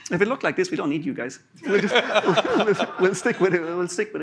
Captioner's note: laughter